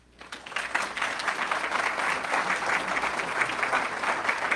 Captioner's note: audience clapping